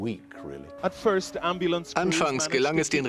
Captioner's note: voiceover